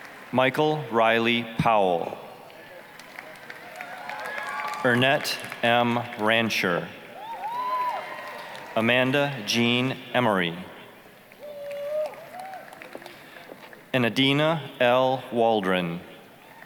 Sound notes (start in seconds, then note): 2.7 applause, cheering; 11.4 applause, cheering